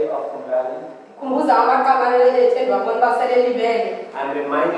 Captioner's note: woman speaking foreign language